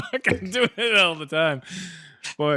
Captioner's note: laughter